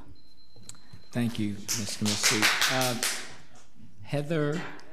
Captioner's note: audience applauds